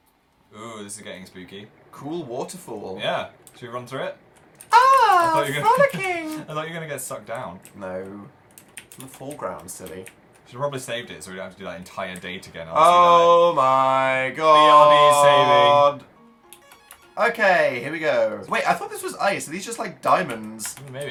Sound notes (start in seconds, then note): 4.7 laughing